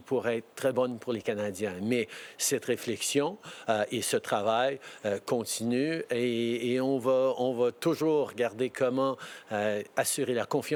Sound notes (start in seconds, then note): 2.5 speaking French